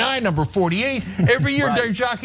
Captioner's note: laugh